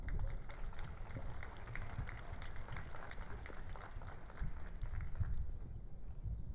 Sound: applause

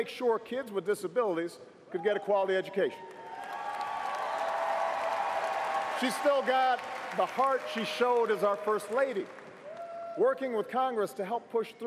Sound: cheers & applause

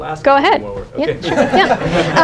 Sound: laughter

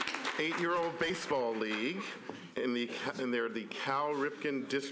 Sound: applause

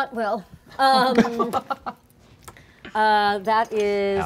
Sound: laughing

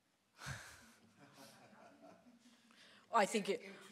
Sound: audience laughing

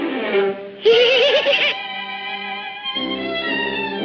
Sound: screaming

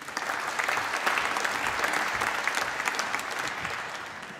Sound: applause

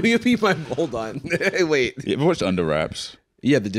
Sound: laughs

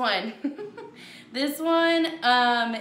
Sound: laughs

